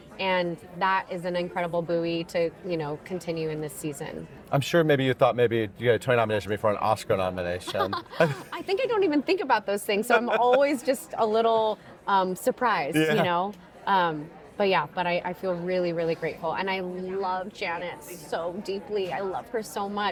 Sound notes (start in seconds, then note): 9.9 laughing